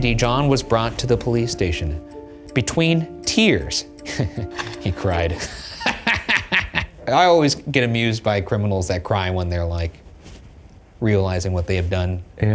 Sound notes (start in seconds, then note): 4.0 chuckles; 5.9 laughs